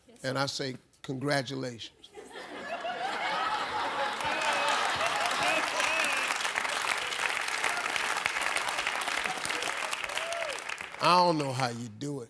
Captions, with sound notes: , and I say congratulations. (audience laughs) (audience claps) I don't know how you do it.